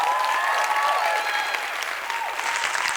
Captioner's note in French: Applaudissements